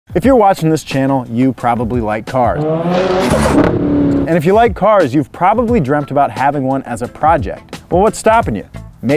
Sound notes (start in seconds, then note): 2.5 cars revving